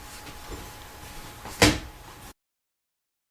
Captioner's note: book thunking onto pile